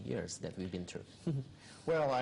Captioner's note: chuckles